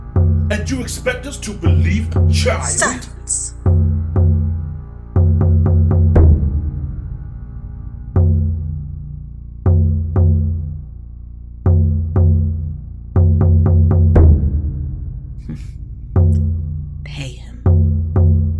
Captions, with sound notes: And you expect us to believe a child- Silence! [amused huff] Pay him.